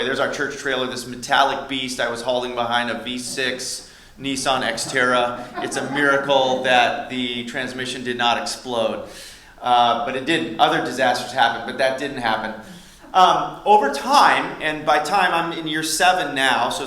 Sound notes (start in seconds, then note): 4.4 laughter; 13.9 laughter